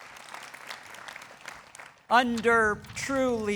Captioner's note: people clapping